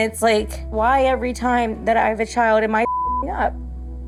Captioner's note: beep